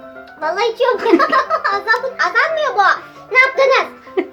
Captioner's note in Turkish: anne gülüyor